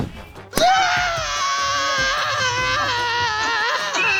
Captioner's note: Muffy screaming